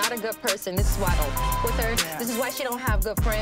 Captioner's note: beep